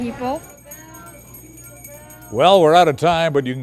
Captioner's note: bell ringing